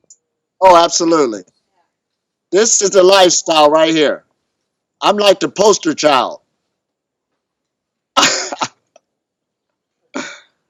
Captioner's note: laughs